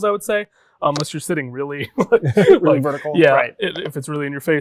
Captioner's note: laughs